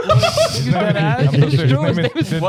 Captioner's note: laughing